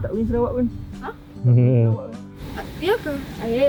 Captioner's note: laugh